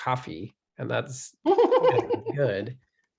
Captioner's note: laughs